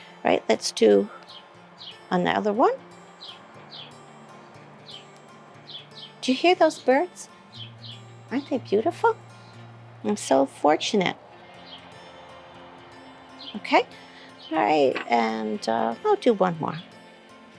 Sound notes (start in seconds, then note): 3.8 bird chirping